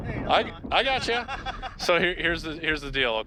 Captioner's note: father laughing